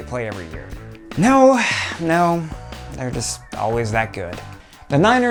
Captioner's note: sigh